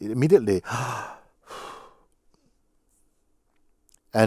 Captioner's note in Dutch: ademt uit